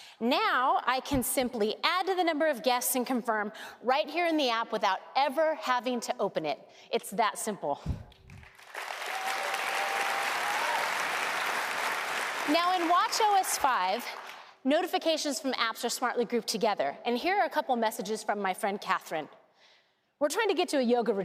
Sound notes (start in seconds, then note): 8.2 applause